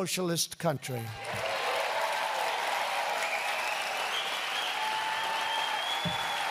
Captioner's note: applause